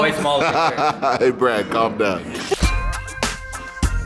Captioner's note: laughing